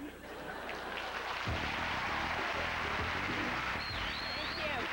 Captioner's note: applause and upbeat background music